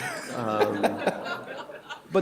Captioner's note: laughter